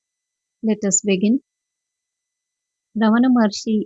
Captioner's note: 5–7 seconds silence